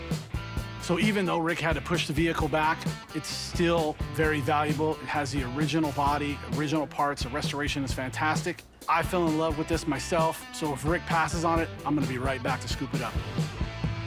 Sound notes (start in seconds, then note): none